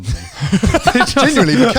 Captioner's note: laughing